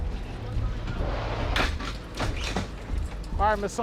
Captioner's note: stretcher clacking